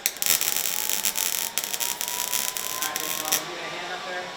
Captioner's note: tools humming